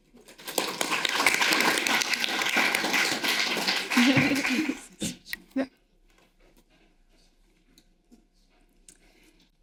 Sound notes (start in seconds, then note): 0.3 audience applauding; 4.6 panelists laughing